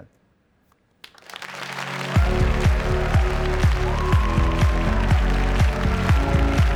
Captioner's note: applause - cheering